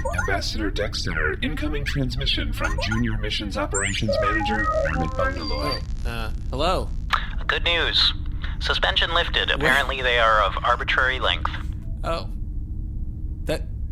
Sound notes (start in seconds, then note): 3.7 holo start noise